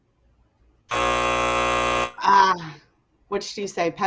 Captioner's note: buzzing loudly